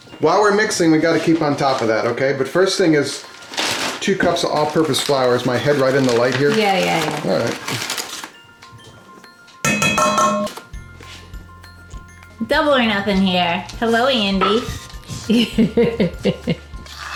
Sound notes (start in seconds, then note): 9.6 bowl clanging; 15.1 woman laughs